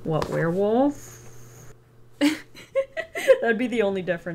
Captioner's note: laughs